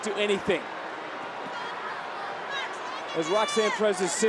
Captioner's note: crowd booing